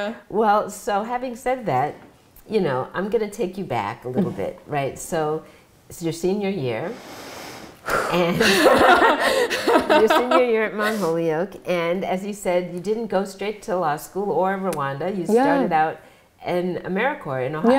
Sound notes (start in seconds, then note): 6.9 exhales; 8.2 laughs